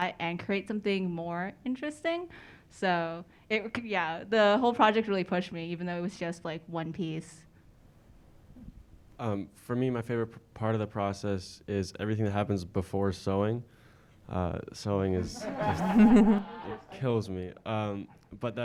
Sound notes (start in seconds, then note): 15.2 audience laughing